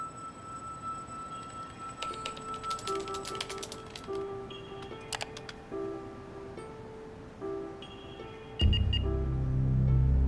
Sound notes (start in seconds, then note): 8.5 beeping